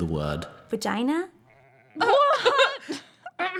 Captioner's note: through laughter; shocked, nervous laughter